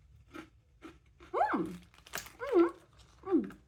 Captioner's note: happy mouth noises